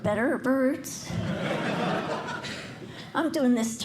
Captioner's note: laughter